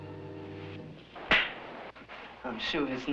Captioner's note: slapping